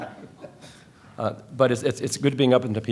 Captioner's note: laughter